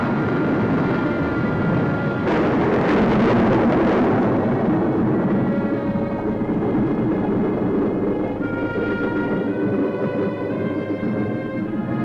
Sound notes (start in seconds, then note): 2.2 loud explosion